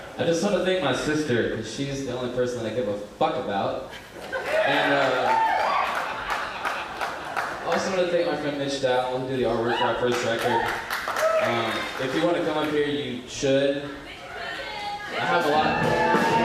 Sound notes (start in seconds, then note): 4.8 applause; 10.1 applause; 16.2 upbeat music